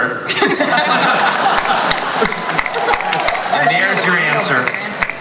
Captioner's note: everyone laughs and claps